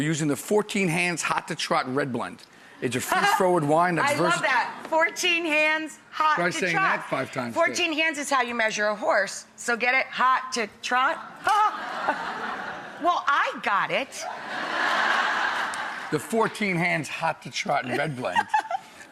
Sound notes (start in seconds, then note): 3.6 laughs; 11.3 audience laughs